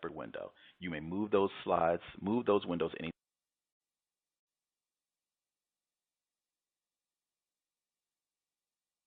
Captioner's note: audio break